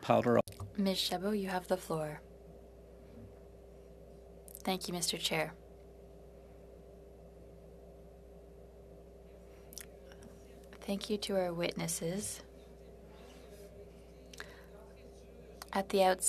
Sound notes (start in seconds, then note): 10.4 speaking French